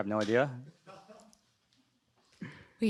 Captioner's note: laughing